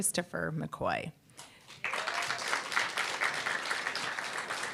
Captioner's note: applause, cheer